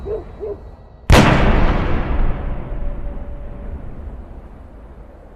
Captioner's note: gunshots